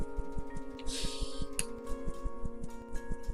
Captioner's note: chuckles